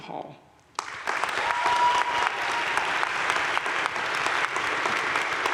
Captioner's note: crowd cheering and applauding